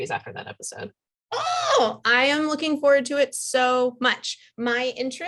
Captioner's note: squeals